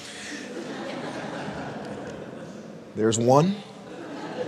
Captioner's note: audience laughing